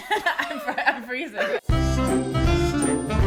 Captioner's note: laughter